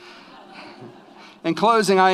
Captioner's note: audience laughs